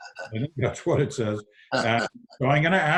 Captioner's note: laughs